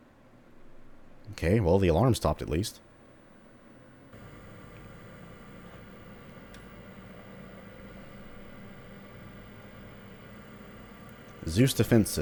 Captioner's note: retro computer startup noises